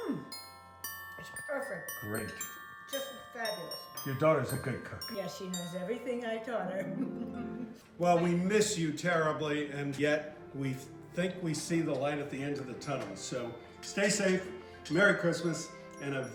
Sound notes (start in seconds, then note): 6.8 laughs